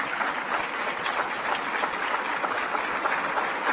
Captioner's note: applause